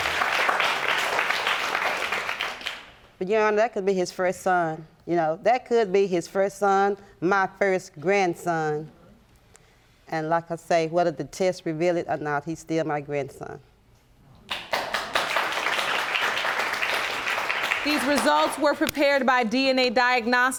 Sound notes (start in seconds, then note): 14.5 audience applauding